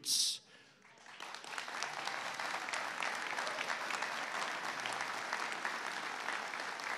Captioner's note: applause